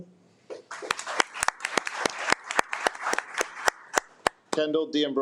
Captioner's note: attendees applaud